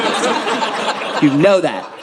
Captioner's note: audience laughing